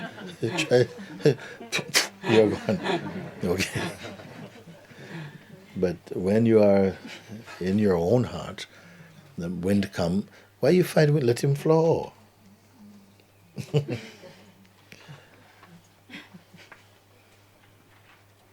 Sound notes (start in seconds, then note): 0.0 laughter; 1.6 imitates wind gusts